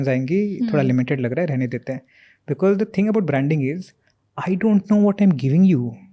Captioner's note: speaks in Hindi